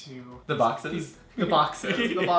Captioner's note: laughs